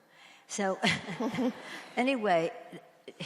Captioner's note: audience laughs